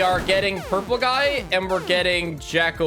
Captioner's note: none